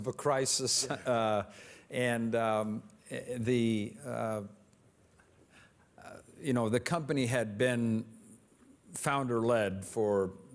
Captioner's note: laughs